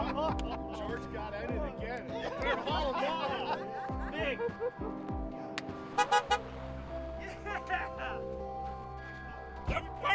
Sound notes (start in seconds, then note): 0.3 men laughing; 5.9 car horn blares